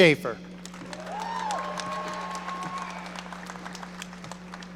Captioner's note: audience applauding